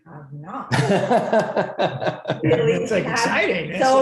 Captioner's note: laughs